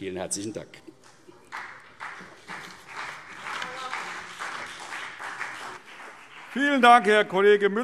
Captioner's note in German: Beifall CDU und BÜNDNIS 90/DIE GRÜNEN